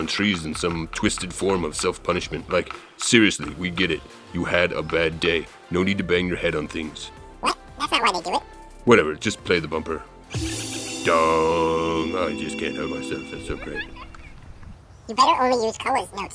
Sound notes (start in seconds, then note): 10.3 bumper music; 10.3 mimicking bumper music